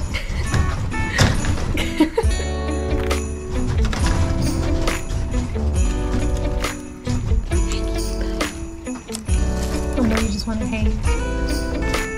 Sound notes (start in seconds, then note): 1.7 laughter